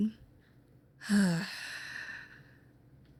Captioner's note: sighs